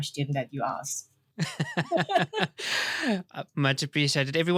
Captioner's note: both laughing